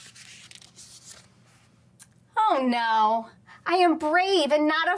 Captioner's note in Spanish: crujido de página